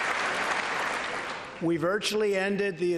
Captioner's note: applause